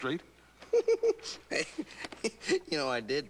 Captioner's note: laughing